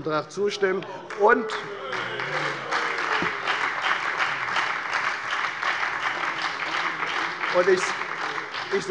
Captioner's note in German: Lebhafter Beifall bei der FDP und der SPD